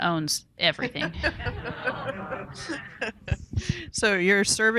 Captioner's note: participants and audience laughing